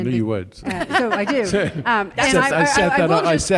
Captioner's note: laughter